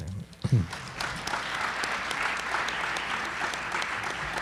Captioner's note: group applauds